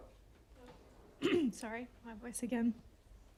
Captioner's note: clearing throat